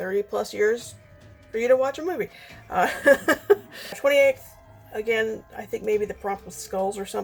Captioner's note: laughs